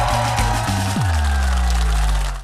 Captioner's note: applause; cheers and applause